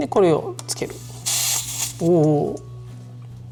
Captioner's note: sound of air leaking